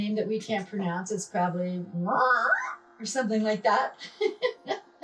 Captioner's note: squelching; laughing